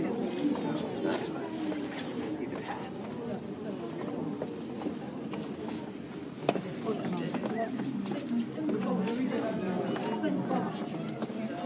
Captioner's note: lots of crowd noise